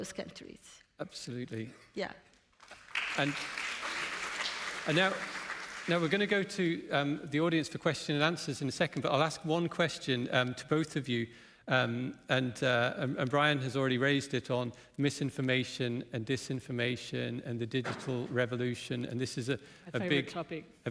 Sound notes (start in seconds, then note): 2.6 applause